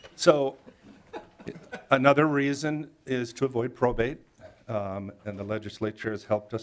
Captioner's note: laughter